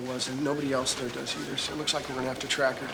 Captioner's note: chuckles